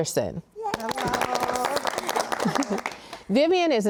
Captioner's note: panelists clapping and cheering